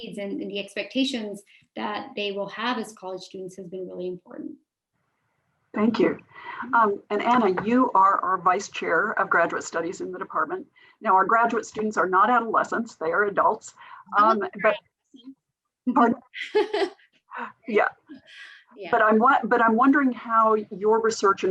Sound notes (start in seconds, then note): 14.2 murmurs; 15.9 chuckles